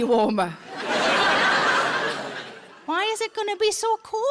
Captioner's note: audience laughs